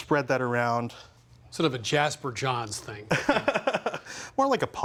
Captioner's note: laughs